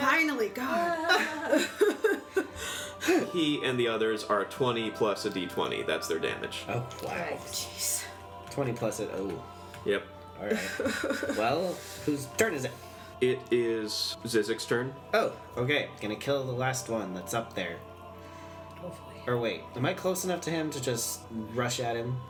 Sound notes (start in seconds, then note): 1.1 sighs of relief